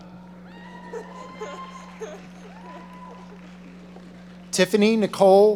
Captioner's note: audience applauding